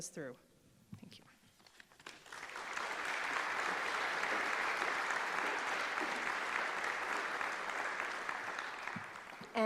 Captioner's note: applause